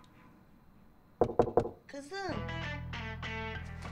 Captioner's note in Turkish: Kapı çalınır